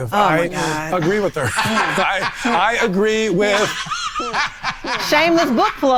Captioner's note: laughing